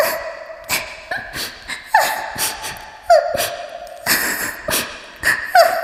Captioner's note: crying; clears throat